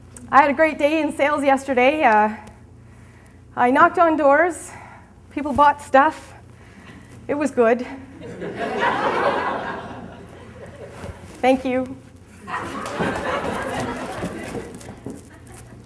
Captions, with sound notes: I had a great day in sales yesterday. I knocked on doors, people bought stuff. It was good. (audience laughs) Thank you." (audience laughs)